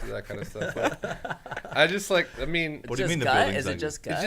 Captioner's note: men laughing